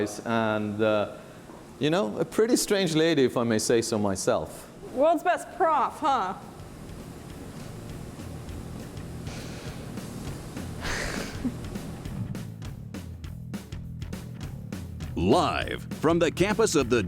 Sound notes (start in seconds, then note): 10.7 chuckles; 12.1 upbeat music